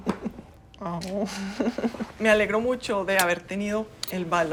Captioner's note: ríen